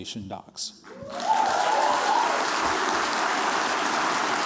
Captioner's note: cheers, applause